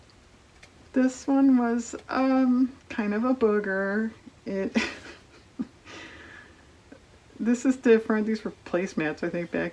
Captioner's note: laughs